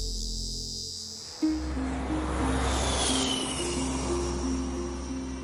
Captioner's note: engine roars